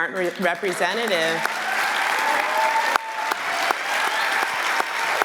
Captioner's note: clapping and cheering